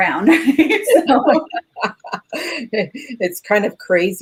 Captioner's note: both laugh